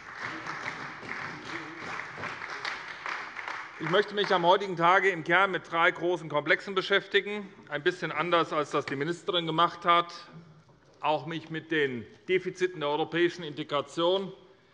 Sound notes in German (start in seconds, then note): 0.0 Beifall bei der SPD und bei Abgeordneten der CDU